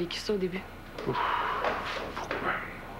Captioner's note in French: Il soupire